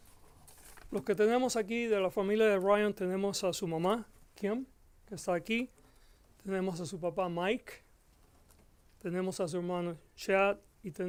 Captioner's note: Gascon speaking Spanish